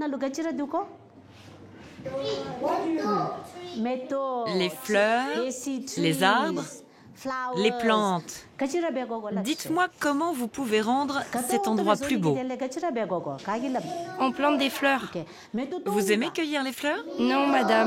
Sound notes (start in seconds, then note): 8.5 dzongkha spoken audio